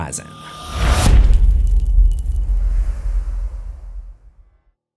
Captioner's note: impact